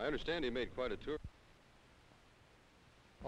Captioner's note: silent